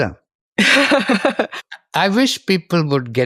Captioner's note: laughs